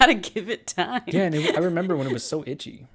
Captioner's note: laughs